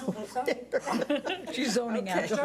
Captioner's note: laughing